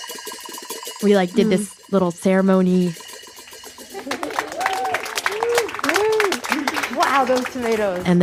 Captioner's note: applause